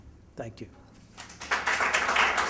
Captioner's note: applause